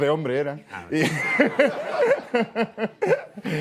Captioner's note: laughs